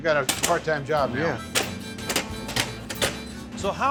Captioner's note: chopping sound